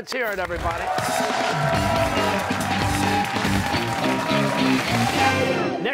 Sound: cheers and applause

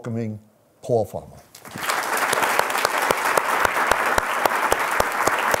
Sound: applause

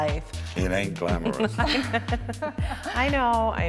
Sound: laughter

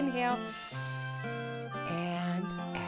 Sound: breathing in through the nose

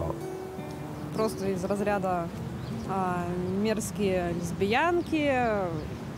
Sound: speaking in foreign language

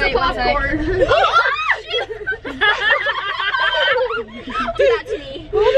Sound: girls screaming and laughing

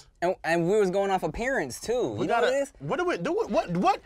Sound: stuttering

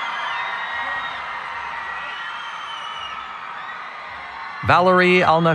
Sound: cheering

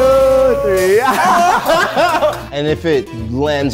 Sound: everyone laughs

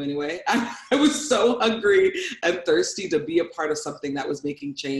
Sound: laughs

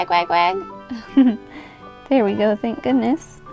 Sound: giggles

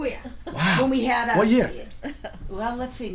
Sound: voiceover

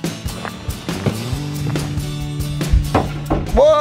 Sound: bright music; snow crunches; door bangs

